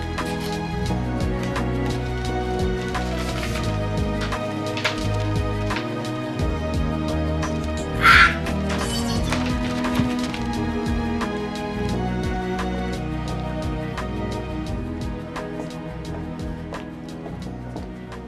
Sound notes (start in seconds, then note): 7.9 screams